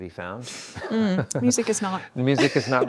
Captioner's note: laughs